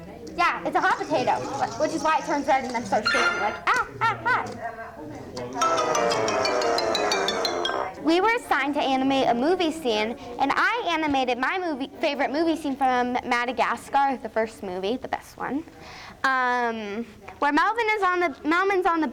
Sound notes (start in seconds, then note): 0.0 computer sounds; 5.6 game over sound